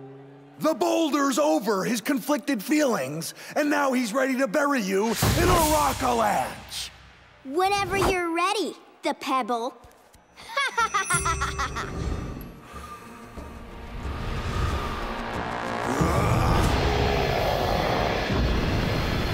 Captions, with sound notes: The Boulder's over his conflicted feelings and now he's ready to bury you in a rockalanche! Whenever you're ready, The Pebble. [laughing]